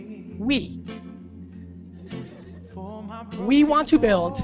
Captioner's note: audience laughter